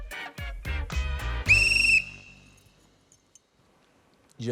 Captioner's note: blows whistle